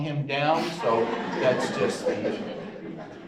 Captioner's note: audience chuckles